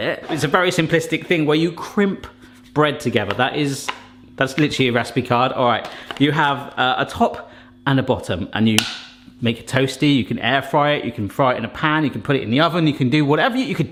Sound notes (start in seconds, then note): none